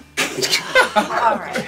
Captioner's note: laughing